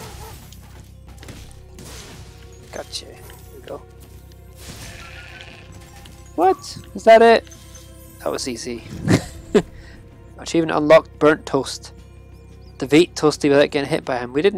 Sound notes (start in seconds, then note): 4.7 sheep bleats